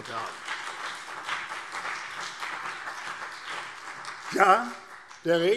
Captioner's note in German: Beifall CDU und BÜNDNIS 90/DIE GRÜNEN